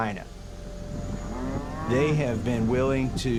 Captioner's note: cows mooing